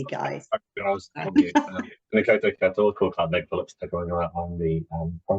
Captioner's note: speaks te Reo Māori